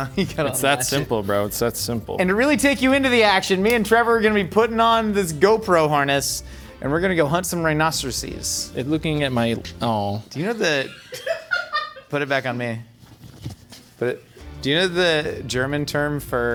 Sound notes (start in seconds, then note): 11.0 crew member laughing